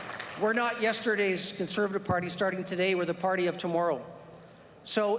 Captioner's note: applause